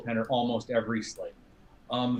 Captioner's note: slurring